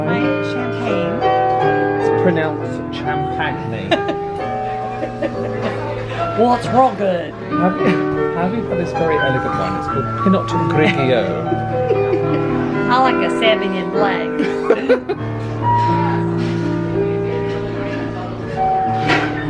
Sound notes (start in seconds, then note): 3.9 laughs; 10.8 both giggle